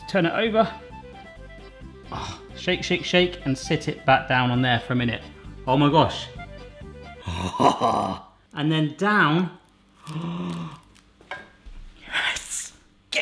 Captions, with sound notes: Just turn it over. (groans) Shake, shake, shake and sit it back down on there for a minute. Oh my gosh. (groans) And then down. (gasping) Yes.